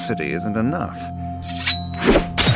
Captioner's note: knife scraping